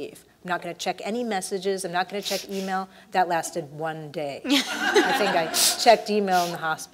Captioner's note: laugh